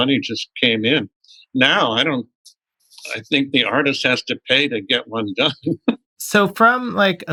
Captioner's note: laughter